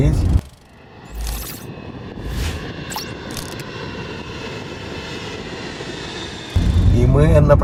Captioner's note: airplane engine sound